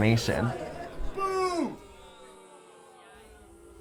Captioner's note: crowd booing